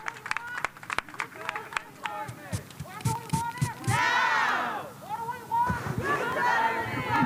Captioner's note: cheers and applause